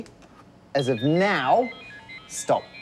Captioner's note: phone alarm sounds